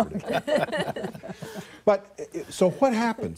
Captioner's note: laughter